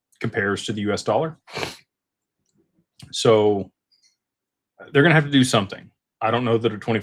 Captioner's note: snorts